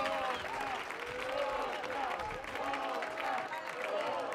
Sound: audience cheering

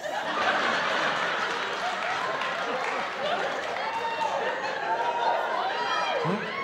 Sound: laughter

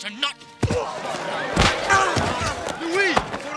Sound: shouting

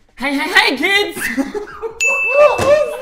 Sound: laughing

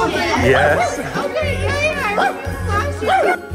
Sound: barking; dog barking

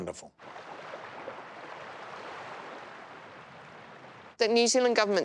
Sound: ocean waves

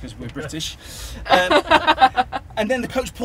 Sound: laughter

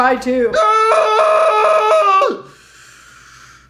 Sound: yells

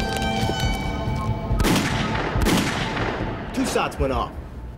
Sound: gun shots firing

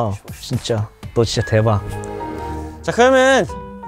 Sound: power off

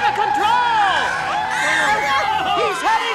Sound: screaming

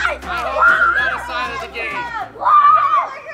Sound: cheering

